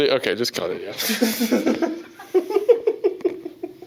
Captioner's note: laughter